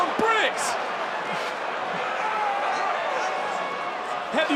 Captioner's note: audience cheering